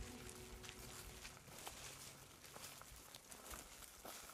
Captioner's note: grass crunching